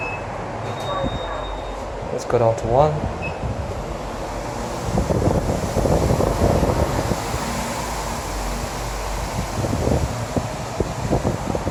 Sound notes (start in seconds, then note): 4.7 ventilator blows